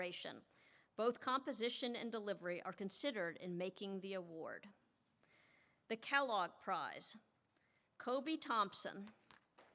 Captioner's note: applause